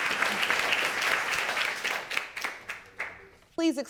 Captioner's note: audience applauding